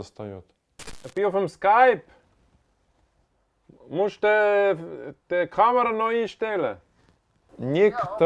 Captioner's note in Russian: говорит по-немецки